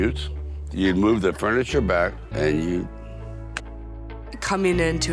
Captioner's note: fist slapping